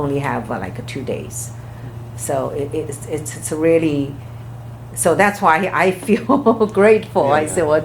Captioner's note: laughs